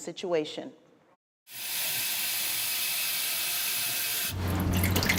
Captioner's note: water rushing; water dripping